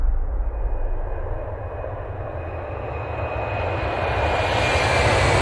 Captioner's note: airplane engine roaring